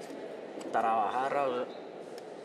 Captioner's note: Spanish spoken audio